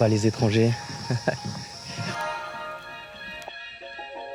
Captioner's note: laugh